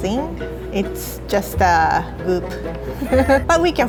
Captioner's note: laughs